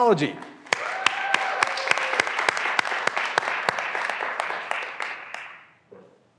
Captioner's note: graduands applauding; graduands cheering